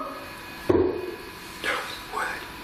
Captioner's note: bang